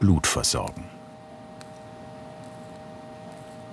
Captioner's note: quiet machine whirring